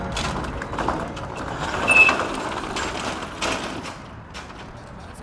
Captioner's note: garage door rolling